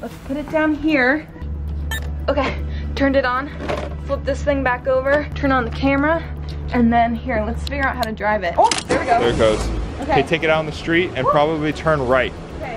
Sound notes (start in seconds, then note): 1.8 beep